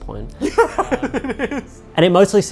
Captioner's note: laughs